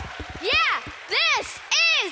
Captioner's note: clapping, cheering